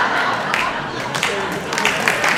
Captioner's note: audience applauding; audience laughing